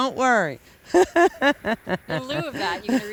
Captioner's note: laughter